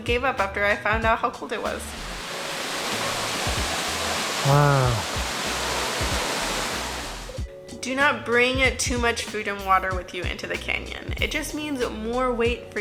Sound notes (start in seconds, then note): 1.8 waterfall splashing